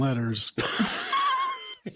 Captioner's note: both Laugh